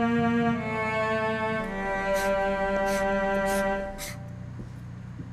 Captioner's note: marker scribbling